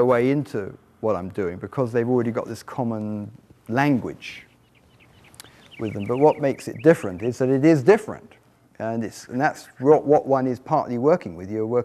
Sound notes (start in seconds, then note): 4.7 birds chirping